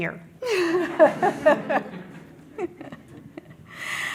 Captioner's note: audience laughs